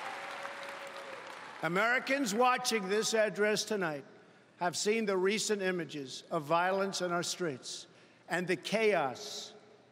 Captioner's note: applause